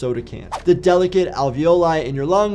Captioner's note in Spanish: transición silbante